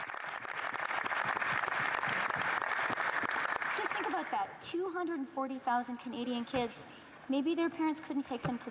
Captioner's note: applause